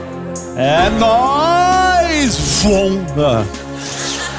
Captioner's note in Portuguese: vento